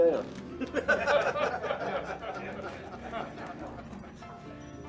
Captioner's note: patrons laughing